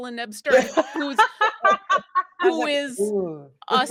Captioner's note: all laughing